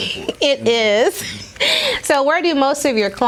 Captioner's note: laughs